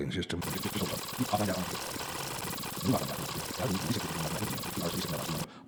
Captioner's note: fast forwarding sound